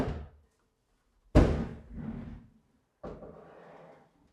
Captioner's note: sink thudding